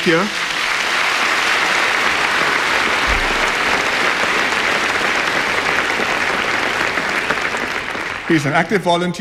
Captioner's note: applause